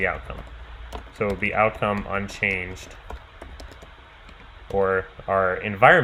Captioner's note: keyboard clicking